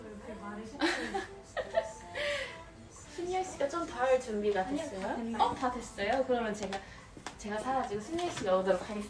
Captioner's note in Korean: 웃음